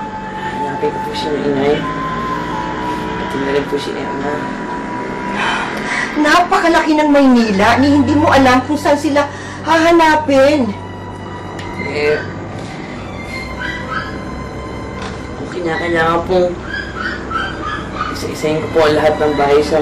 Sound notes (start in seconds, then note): 5.3 sighs